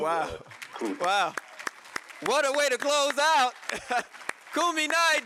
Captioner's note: laughs